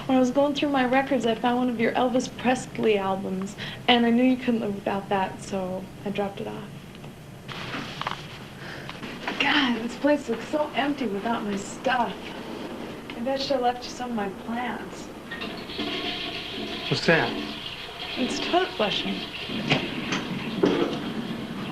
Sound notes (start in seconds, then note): 15.5 toilet flushing